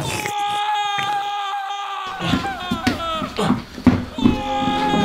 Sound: Shaggy guzzling; distant person screaming; suspenseful orchestral music

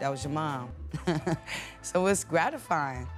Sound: woman laughs

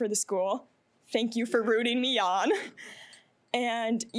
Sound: chuckling

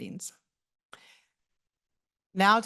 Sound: pause

